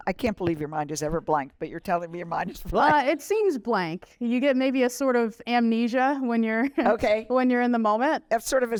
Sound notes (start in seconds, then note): 2.8 laughter